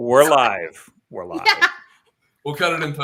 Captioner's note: laughter